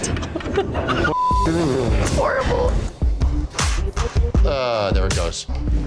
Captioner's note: woman laughs; beep